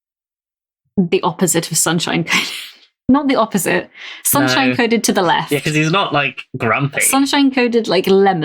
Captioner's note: laughs